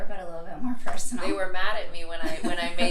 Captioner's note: laughs